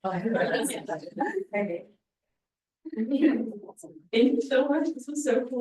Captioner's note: attendees chuckling